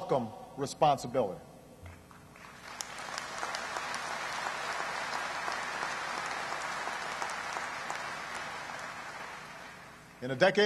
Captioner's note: applause